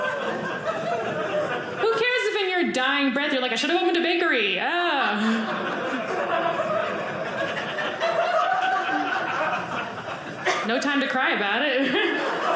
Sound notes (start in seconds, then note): 4.9 audience laughing; 11.7 audience laughing